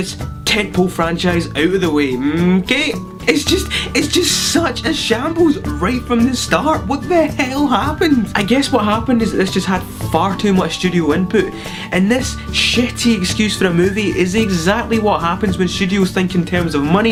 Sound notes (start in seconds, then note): 3.0 laugh